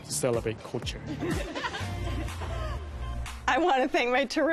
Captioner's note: laughter